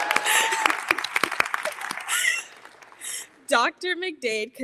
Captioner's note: audience cheers; all applauding; audience and chuckle